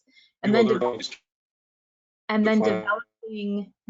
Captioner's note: audio clipping